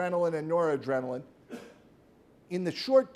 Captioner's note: man coughs